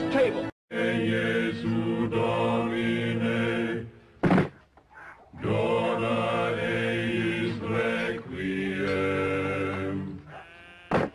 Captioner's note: chanting